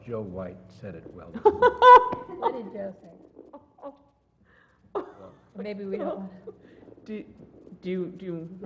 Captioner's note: laugh